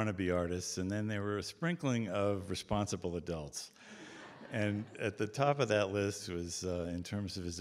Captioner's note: audience Laughter